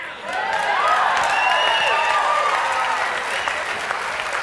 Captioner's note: audience cheers